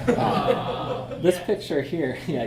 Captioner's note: audience jeers